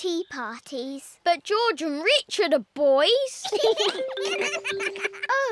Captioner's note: both giggle